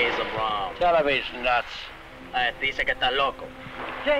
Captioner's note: Colonel Cabeza speaking in Spanish; man speaking in Spanish